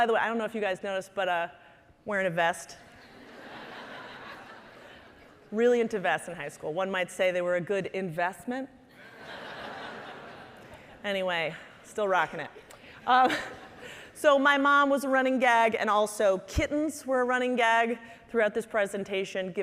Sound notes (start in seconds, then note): 3.0 audience laughing; 9.0 audience laughing